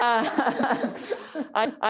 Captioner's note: they all laugh